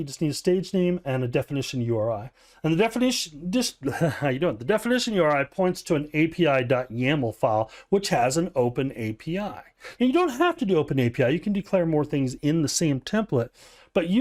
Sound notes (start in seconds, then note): 3.8 chuckles